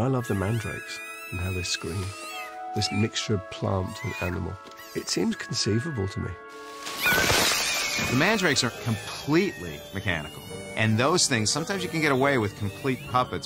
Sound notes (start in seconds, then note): 7.0 mandrakes screaming